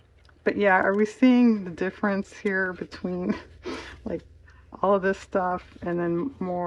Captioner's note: laughs